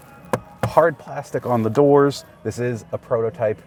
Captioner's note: hand bangs